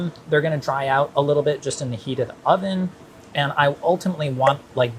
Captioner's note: none